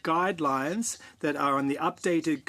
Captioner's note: speaking French